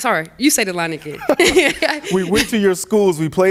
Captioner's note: laughter